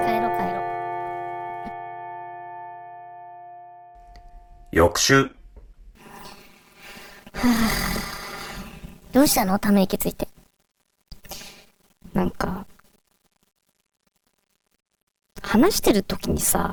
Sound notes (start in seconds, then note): 6.9 sigh